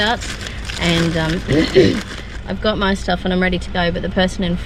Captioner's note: clears throat